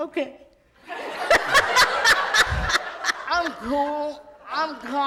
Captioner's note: loud laughter in audience